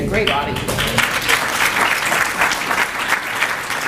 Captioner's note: clapping